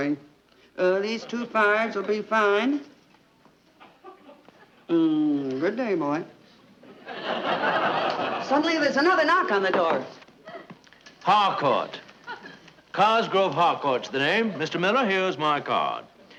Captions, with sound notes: These two fives will be fine. Good day, boy. (audience laughing) Suddenly, there's another knock on the door. (knocking on door) - Harcourt, Cosgrove Harcourt's the name. Mr. Miller, here's my card.